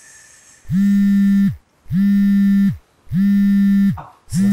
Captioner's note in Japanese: バイブレーションの音